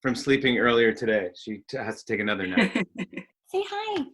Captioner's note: laughs